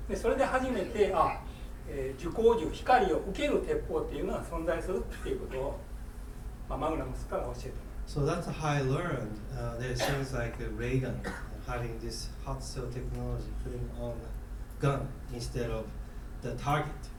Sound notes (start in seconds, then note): 0.2 speaking in foreign language; 9.9 coughing